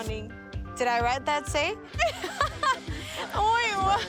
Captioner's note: laughs